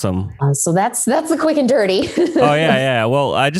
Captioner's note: laughs